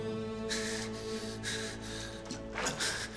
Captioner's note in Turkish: Nefes sesi